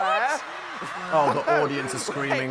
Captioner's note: audience cheering